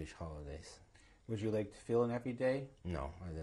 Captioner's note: non-english